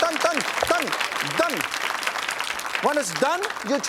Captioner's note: audience claps